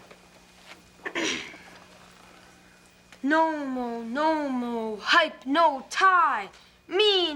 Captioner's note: throat clears